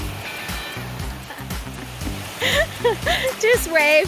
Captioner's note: laughter